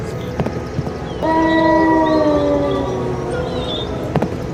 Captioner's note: wolves howling